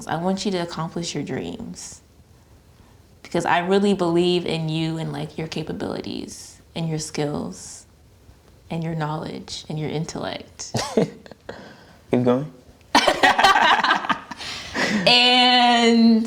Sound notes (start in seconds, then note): 12.9 both laughing; 12.9 laughs